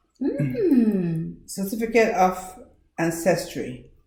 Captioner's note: Ben's sister makes excited noise